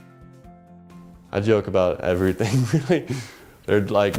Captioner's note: laugh